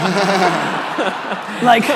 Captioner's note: audience laughing